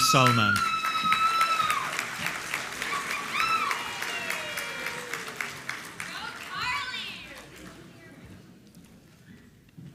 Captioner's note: applause